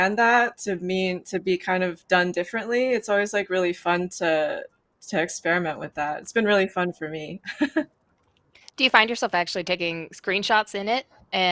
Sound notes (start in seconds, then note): 7.5 laughs